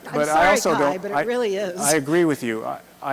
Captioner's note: voiceover